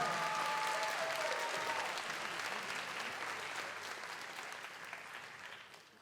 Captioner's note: audience cheers; audience applauds